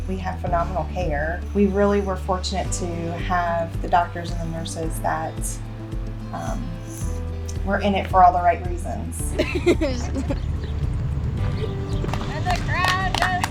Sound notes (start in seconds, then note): 9.3 giggling; 11.3 clapping; 11.4 applause